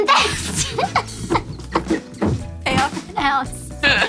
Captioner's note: both laughing